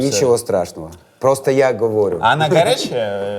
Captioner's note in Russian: снова «по-чешски»